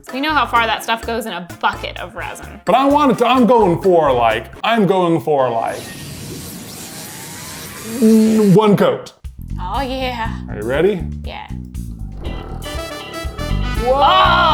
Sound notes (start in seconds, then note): 5.8 electric zapping; 11.8 nail polish vibrating